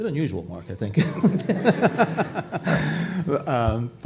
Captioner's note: laughter